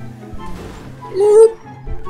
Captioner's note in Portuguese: Som de dor anal